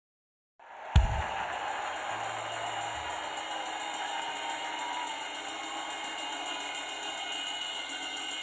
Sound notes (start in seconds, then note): 0.6 crowd cheering; 3.1 cymbal crashing quickly